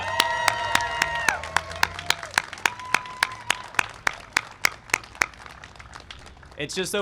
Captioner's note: applause and cheering